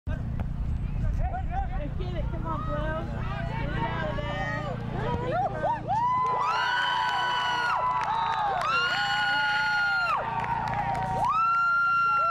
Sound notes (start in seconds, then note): 0.0 soccer ball bouncing, players running; 7.6 fans cheering